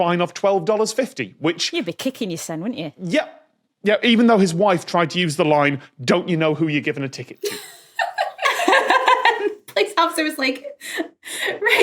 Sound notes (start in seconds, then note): 7.4 group giggling